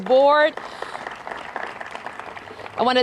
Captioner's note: applause